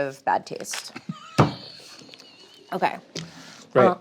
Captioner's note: laughs